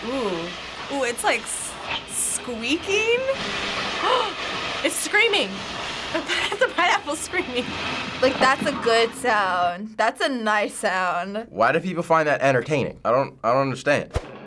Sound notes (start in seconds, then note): 4.1 gasping